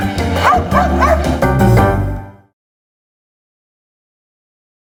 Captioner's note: dog barks